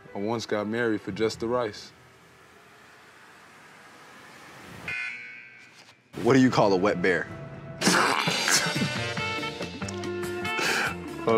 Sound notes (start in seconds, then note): 1.9 suspenseful sound effect; 4.8 electronic beep; 7.8 laughing; 9.6 goofy music